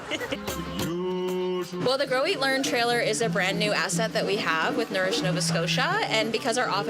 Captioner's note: laughter